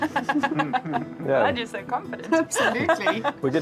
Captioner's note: laughs